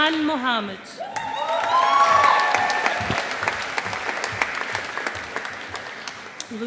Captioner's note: audience applauding